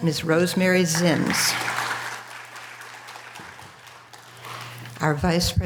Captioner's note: audience applause